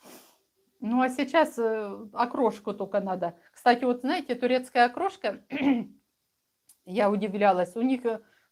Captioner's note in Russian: откашливается